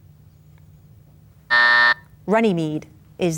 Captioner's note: timer buzzes